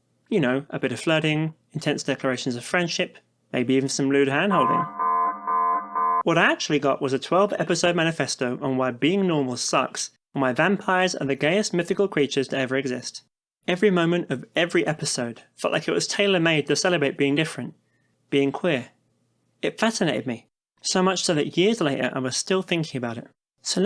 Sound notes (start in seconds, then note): 4.1 alarm noises